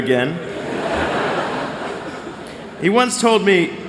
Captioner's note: laughter